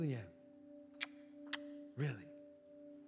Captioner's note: kisses